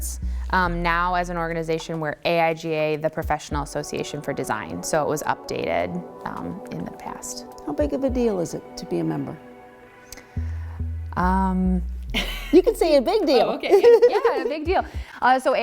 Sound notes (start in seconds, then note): 13.3 laughing